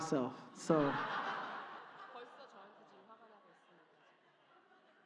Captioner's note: audience Laughter